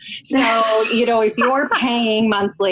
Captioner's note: laughs